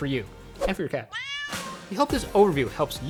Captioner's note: cat meowing